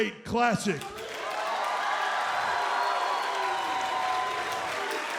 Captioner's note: crowd cheering